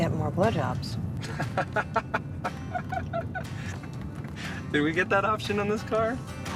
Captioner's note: laughing